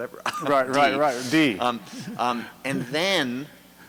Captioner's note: laughs; voiceover